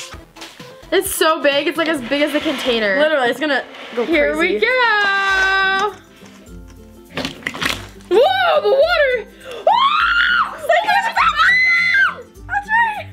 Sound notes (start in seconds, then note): 9.5 screams